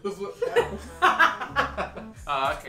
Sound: laughing

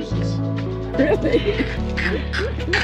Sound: laughter

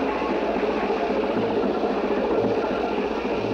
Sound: motor Humming

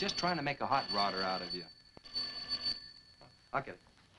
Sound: phone ringing

